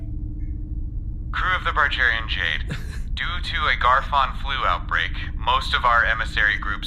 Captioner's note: Pleck laughs